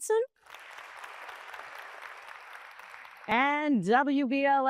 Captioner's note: applause